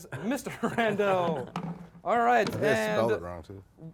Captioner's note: laughs